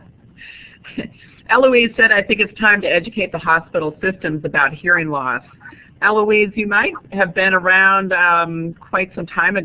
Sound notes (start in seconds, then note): 1.5 chuckles